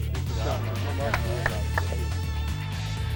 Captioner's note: apapplplauaudsds